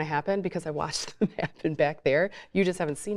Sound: chuckles

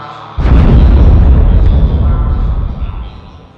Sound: dull explosion

